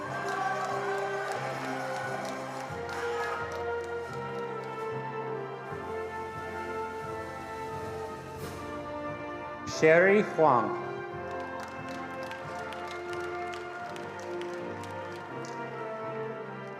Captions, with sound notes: (attendees applauding) Sherry Huang. (attendees applauding)